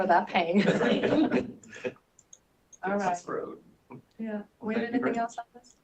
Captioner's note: laughter